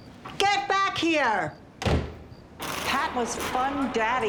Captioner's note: door slams